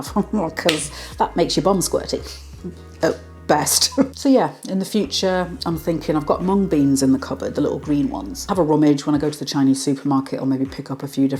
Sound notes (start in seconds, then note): 3.8 laugh